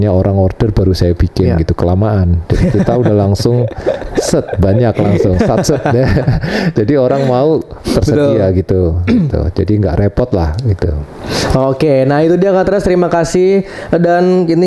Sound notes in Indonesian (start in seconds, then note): 5.6 tertawa; 9.0 berdehem